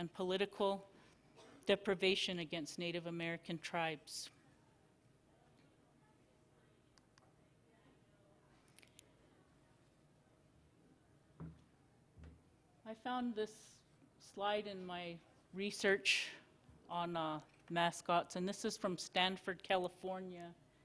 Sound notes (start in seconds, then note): 4.4 silence